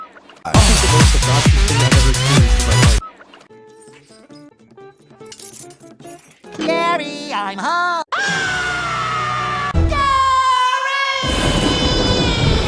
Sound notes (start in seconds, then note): 8.0 Spongebob Screams